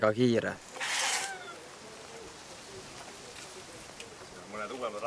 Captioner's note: brake scrunch sound, steps